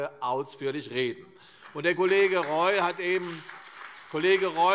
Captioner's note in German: Beifall CDU